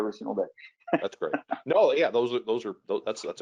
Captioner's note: laughs